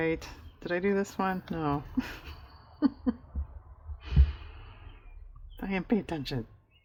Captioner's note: laughs